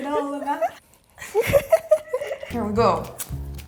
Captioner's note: laughs; rips; laughs